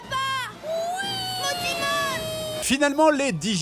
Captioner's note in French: weeeeee !!